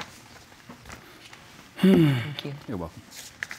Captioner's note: sighs